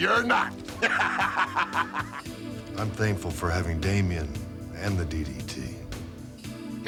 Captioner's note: laugh